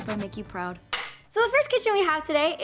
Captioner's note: clapboard snapping